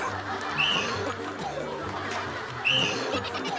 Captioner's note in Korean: 쿨럭쿨럭